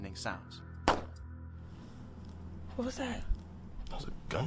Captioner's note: gun shots firing